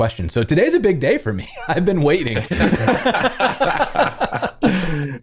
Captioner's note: laughter